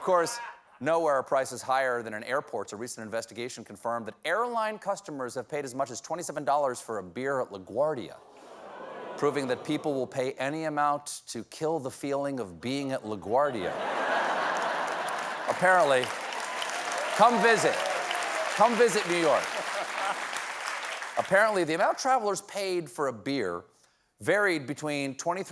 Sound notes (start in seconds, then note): 11.6 applause; 11.6 laughter